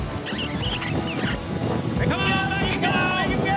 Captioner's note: booger makes sqing sound